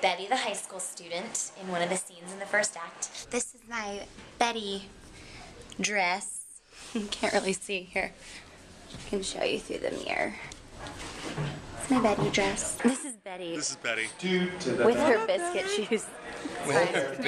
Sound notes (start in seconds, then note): 12.8 laughter; 14.6 laughter